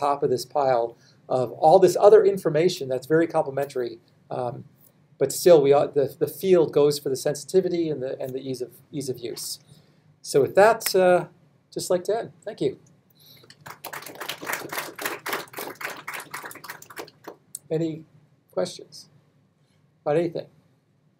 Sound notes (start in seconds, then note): 13.5 audience applauds